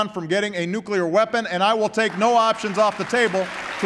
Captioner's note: applause